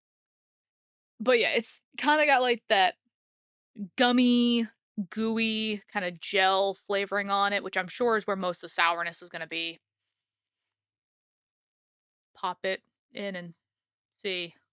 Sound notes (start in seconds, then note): none